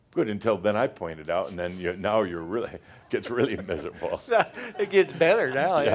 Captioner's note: they chuckle